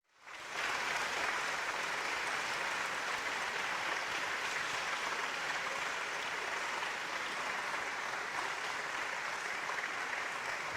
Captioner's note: applause